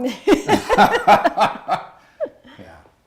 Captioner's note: laughing